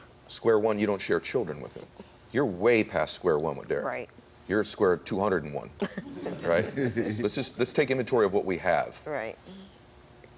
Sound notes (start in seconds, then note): 5.9 laugh; 6.0 audience laughs